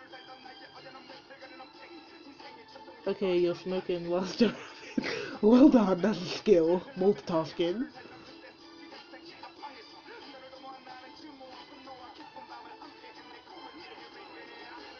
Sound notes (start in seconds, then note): 4.3 laughs